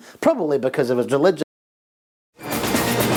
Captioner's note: sound cuts off